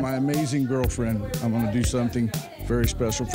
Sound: none

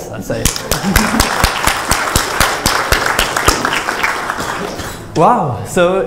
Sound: applause

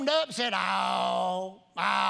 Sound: imitating a dog howling

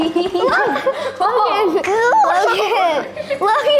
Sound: kids laughing

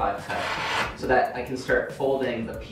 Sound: blade slices

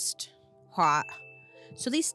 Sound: bell rings

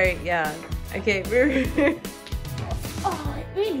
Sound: laughs

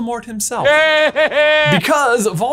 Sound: Voldemort laughing

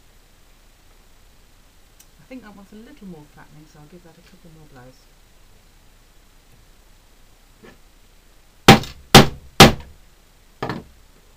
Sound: hammering

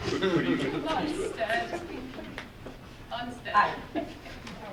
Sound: audience laughing

